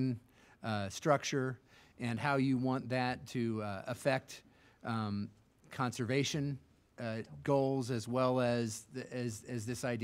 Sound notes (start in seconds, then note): none